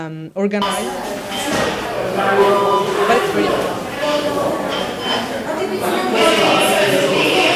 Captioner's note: computers beeping and people conversing rapidly